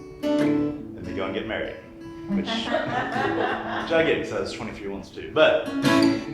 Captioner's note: laughter